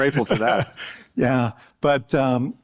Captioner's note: laughter